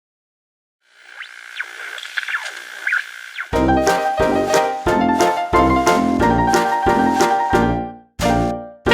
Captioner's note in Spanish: interferencias de televisión